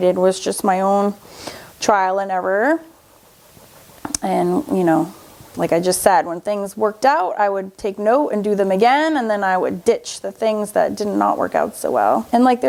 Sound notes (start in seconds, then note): none